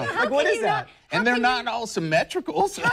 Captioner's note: laughter